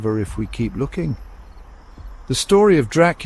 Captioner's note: insects trilling